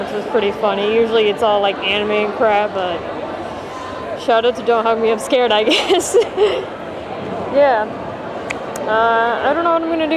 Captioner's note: laugh